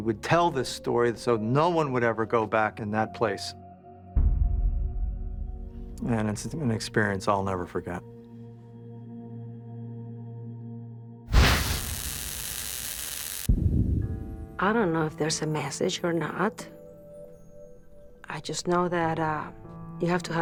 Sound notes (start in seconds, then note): 11.3 crackling; 11.3 static